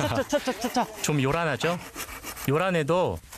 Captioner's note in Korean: 요란법석